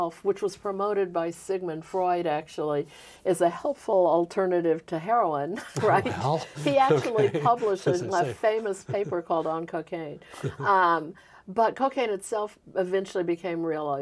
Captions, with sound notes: which was promoted by Sigmund Freud actually, as a helpful alternative to heroin. [both laughing] He actually published this famous paper called "On Cocaine." But cocaine itself eventually became realized